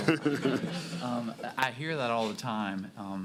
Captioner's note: laughter